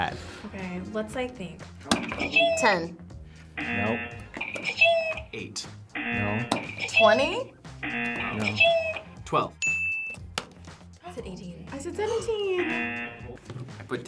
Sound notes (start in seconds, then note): 3.6 buzzer rings; 3.6 buzzer; 5.9 buzzer rings; 6.0 buzzer; 7.8 buzzer; 7.8 buzzer rings; 9.6 bell rings; 12.5 buzzer